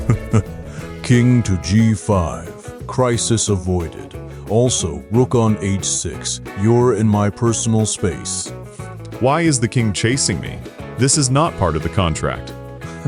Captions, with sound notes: [chuckle] King to G-5. Crisis avoided. Also, rook on H-6, you’re in my personal space. [sniff] Why is the king chasing me?! This is NOT part of the contract!